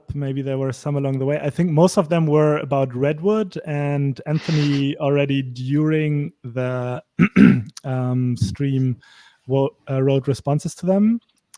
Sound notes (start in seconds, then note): 7.2 clears throat